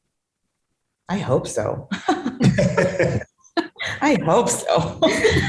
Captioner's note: laughs